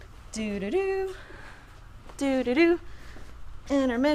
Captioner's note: humming